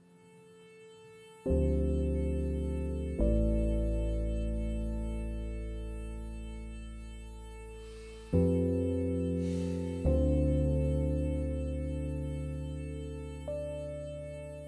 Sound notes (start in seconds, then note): 9.4 Quinn sighs